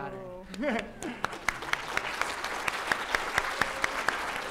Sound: applause

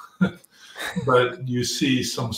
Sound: laugh

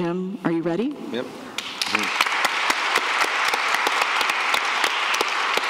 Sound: applause

